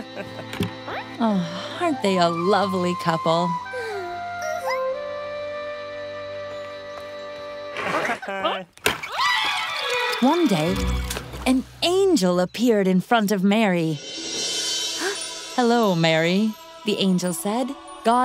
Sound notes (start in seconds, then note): 8.5 laughter; 9.0 screams; 10.8 splash; 14.8 gasps